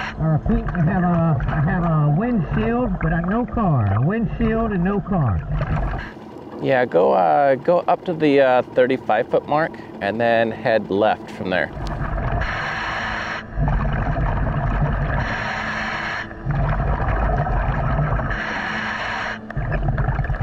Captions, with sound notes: I repeat, I have a windshield, but no car. A windshield and no car. - Yeah, go up to the 35-foot mark and then head left from there. (water bubbling) (scuba breathing)